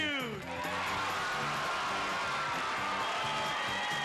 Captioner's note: cheers and applause